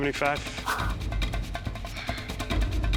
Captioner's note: sighs